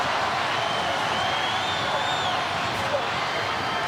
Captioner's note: audience cheering